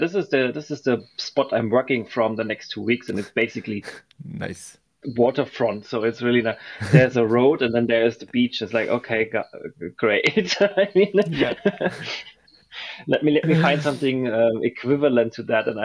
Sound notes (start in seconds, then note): 11.1 chuckles; 11.2 laughs